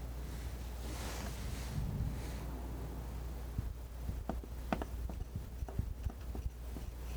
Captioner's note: tapping